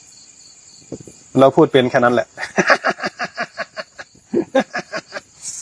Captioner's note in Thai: เสียงหัวเราะ